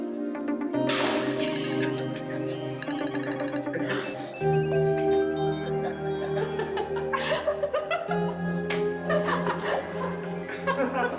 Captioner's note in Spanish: Risas